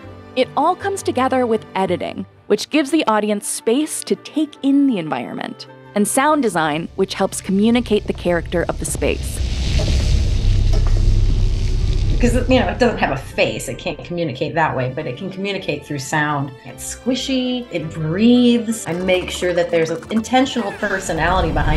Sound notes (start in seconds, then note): 9.7 buzzing and crackling